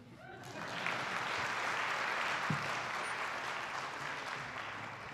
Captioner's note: attendees applauding